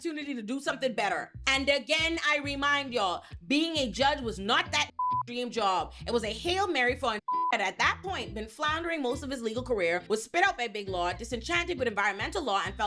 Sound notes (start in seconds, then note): 4.9 beep; 7.2 beep